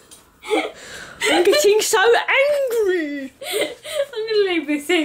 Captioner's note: in a silly voice